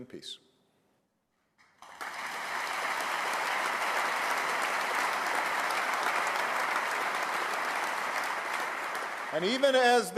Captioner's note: applause